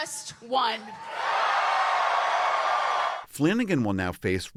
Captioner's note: cheering